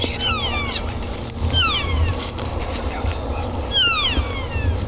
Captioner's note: cows calling